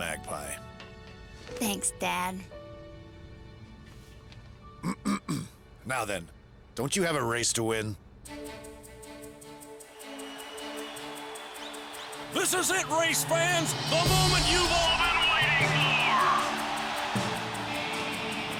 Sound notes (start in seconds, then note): 6.6 clears throat; 11.8 cheering